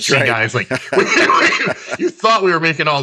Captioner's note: both laugh